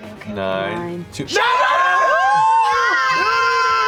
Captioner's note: screaming